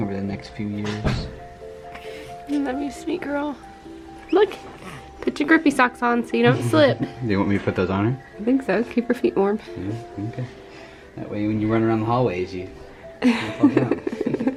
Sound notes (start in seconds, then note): 7.3 laughs; 13.2 laughs